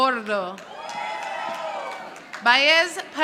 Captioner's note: audience applauding